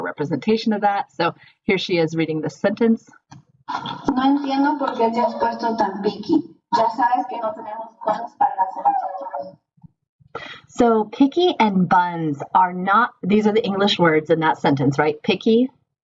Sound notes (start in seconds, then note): 7.5 spanish reading